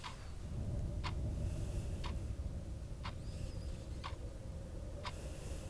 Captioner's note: Ellie breathes uneasily